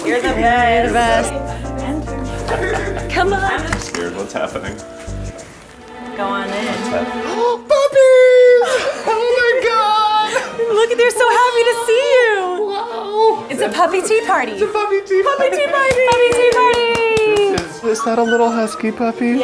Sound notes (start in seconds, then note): 15.8 clapping